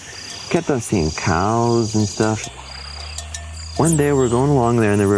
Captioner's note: cow bells ringing